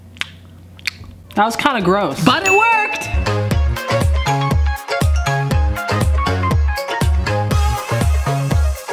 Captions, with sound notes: That was kind of gross. But it worked. (bell dings) (uptempo funky music)